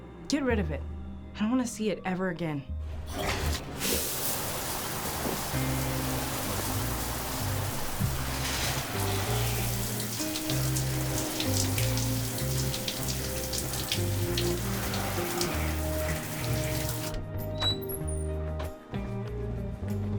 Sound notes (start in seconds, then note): 3.6 water splashing; 6.0 soft music; 11.0 water splashing continues; 17.4 door creaks